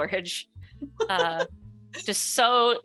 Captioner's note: laughs